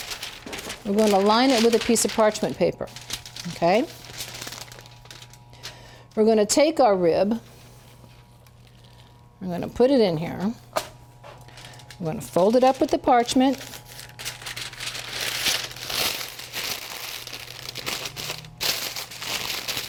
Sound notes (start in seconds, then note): 14.8 paper crinkling